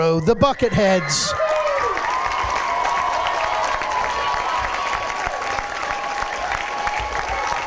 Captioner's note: cheering and applause